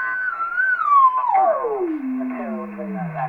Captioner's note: warbling voice speaking